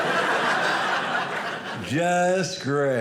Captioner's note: audience laughing